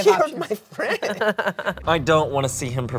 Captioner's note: laughs